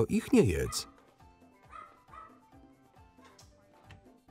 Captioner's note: dog barking